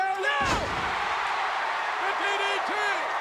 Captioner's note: spectators cheering